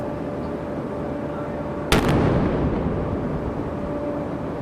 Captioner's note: cannon firing